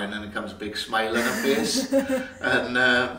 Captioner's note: laughs